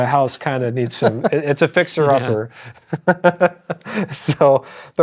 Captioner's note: laughs